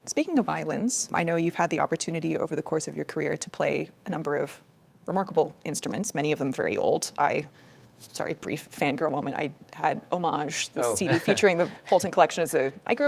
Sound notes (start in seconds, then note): 10.8 laughs